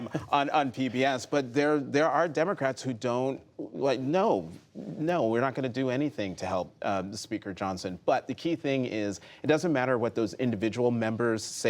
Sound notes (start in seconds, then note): 0.0 laughter